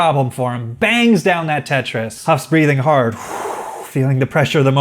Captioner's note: breath